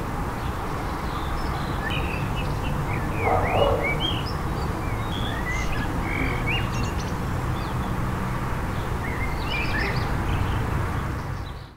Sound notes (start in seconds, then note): 3.1 dog barking